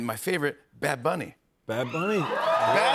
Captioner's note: cheers and applause